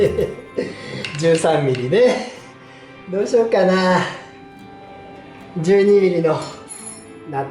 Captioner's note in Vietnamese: cười